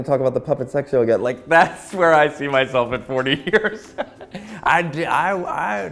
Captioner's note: laughing